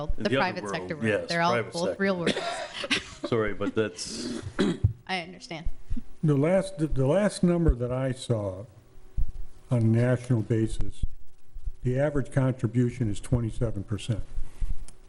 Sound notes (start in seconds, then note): 2.2 person coughing; 2.2 chuckling